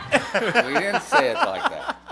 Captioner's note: laughter